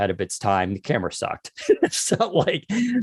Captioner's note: laughs